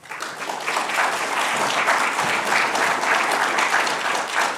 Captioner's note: attendees applauding